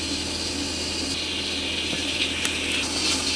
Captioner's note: the sound of rice cooking... 🍚